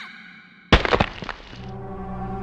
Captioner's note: splatter